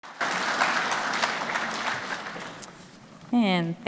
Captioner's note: audience applause